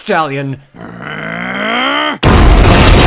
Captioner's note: growls; explosions